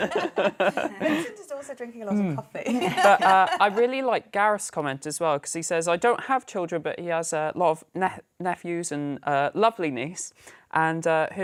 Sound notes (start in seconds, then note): 2.7 laughter